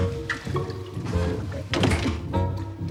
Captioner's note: gurgling water